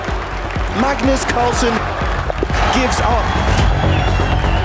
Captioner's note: crowd applauding, cheering